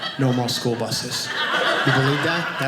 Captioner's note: audience laughing